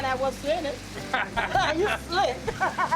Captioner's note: laughter